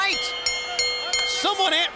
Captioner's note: bell dinging